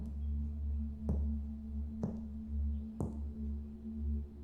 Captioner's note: steps approaching